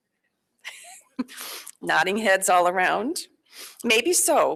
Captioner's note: laughs quietly